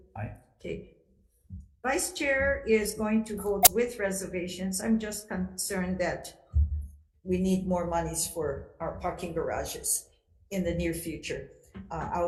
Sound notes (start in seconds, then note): none